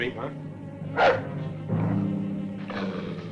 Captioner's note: dog barking; dog growling